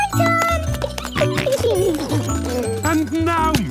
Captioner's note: giggling, snorting